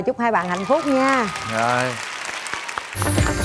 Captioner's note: clapping